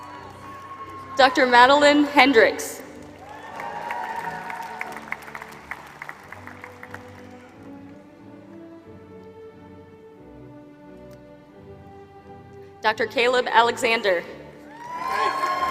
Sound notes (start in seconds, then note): 2.8 applause; 14.7 applause